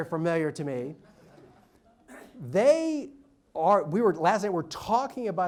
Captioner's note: audience laughs